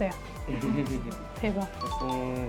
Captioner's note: hahahahahaha